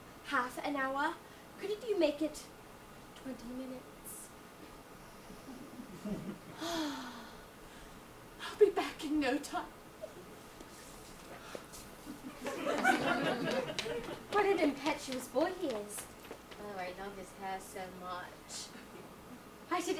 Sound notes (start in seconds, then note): 5.7 audience laughs; 6.5 Cecily sighs; 12.1 audience laughs